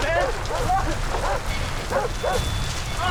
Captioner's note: dog barking